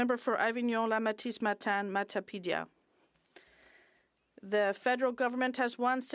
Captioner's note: speaking French